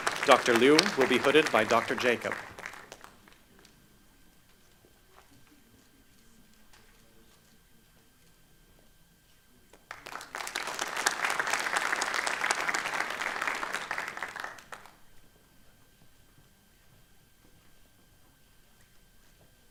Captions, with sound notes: Dr. Liu will be hooded by Dr. Jacob. (Applause)